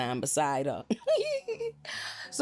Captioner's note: laughs